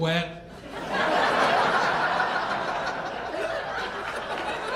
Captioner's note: audience laughing